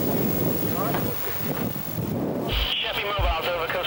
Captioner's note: wind whooshing; crew chattering; helicopter whirls; wind whooshing